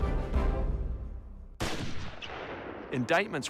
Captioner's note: gunshot